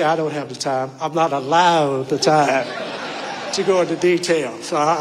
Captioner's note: audience laughing